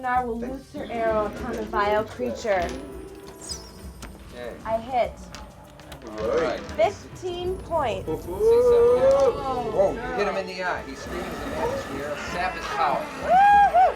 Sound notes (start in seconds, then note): 3.2 dice clatter; 7.6 group chattering